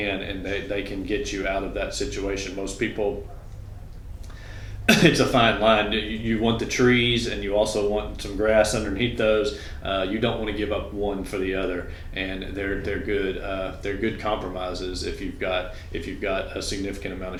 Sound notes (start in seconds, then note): 4.5 coughs